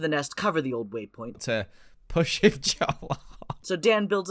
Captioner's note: laughs